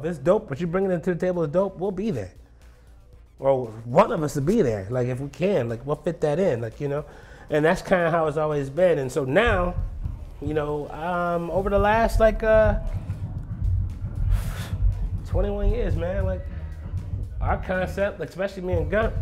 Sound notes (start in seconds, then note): 12.7 scoffs